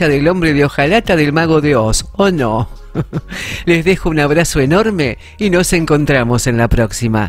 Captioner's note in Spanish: risa